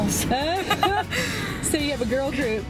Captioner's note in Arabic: جميع يضحك